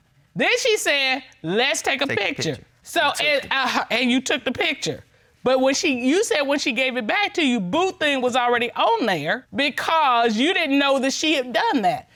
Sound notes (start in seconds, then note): none